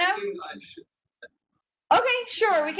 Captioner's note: man speaks through warped and choppy audio